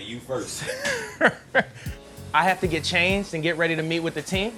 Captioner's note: laughs